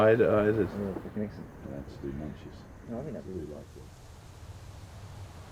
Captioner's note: indistinct conversation